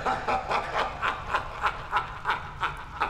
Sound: laughing

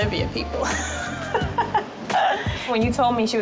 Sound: laughing

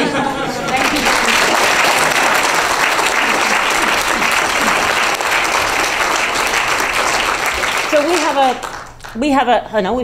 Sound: applause

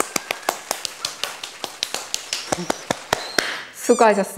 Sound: round of applause

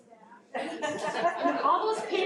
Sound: audience laughing

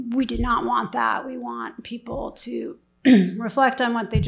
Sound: throat clears

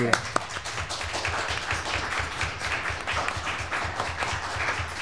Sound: applause

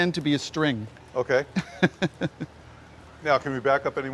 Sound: chuckles

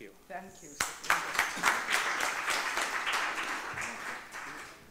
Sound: audience clapping

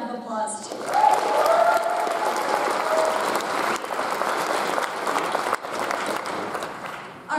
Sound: audience applauds; audience cheers

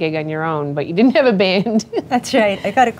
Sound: laughs

